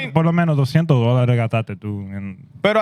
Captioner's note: speaking Spanish